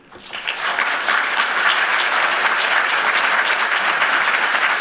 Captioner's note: audience applauds